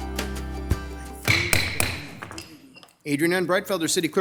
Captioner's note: intense music begins; gavel clangs